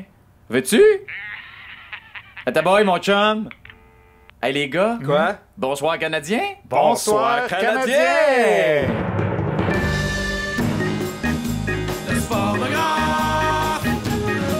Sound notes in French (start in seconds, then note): 1.0 rire sarcastique; 2.0 tonalité continue; 8.7 roulement de tambour